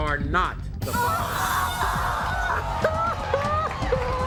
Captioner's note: sobbing